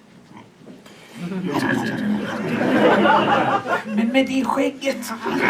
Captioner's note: audience laughs